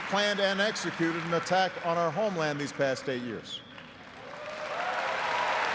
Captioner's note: applause